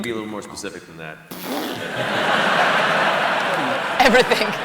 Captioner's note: laughter